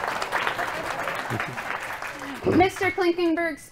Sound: applause

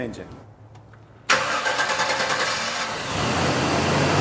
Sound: car engine

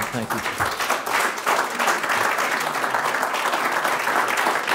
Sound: crowd applauding

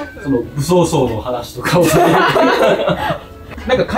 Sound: laughs

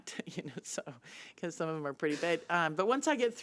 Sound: laughing

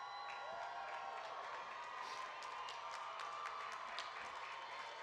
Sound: audience cheering and clapping

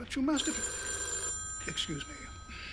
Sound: phone rings

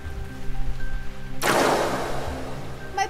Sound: blasterfire

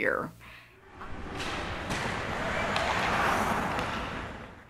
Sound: clacking noises

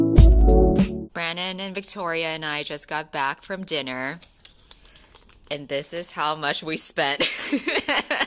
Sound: laugh cry

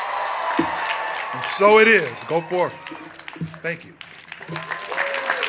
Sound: cheers and applause

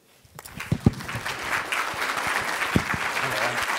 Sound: clapping

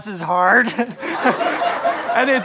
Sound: laughs

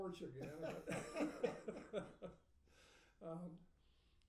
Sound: laughing

